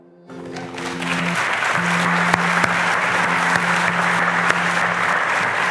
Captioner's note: audience applauding